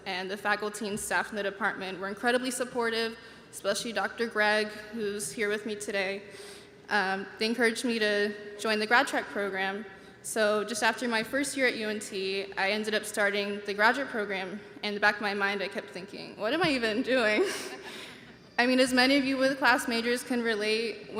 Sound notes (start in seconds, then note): 17.3 chuckling; 17.9 audience members laughing